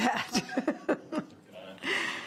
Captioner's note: laughing